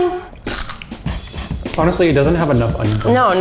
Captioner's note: crunching